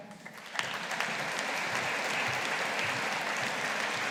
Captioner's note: audience applauding